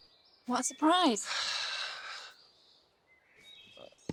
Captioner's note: sighing